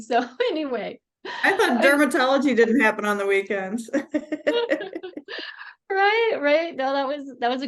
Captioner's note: laughing